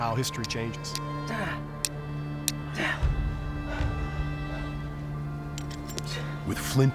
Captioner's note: striking flint